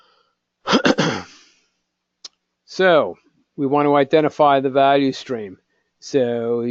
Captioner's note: cough